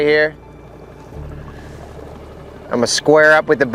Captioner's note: gentle music; motor rumbling